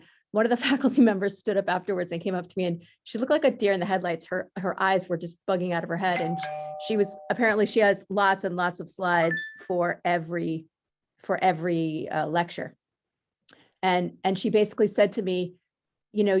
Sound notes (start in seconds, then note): 6.2 door bell